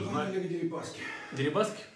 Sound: voice-over

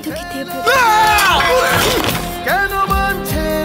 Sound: scream

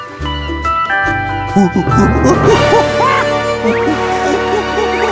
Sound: monkey noises

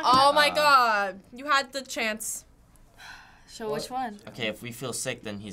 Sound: sighing

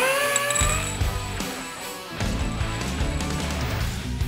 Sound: upbeat rock music continues; machine whirring

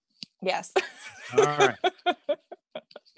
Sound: laughs

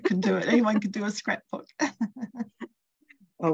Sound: laughs

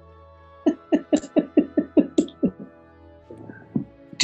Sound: giggling

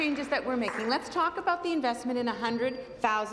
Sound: applause

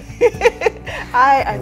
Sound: heh hehe he

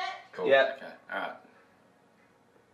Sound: none

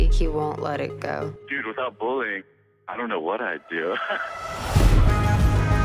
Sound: laughs

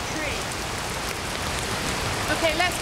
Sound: rain

